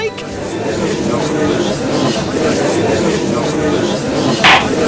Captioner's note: gallery chattering